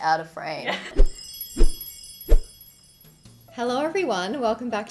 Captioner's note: hair whooshing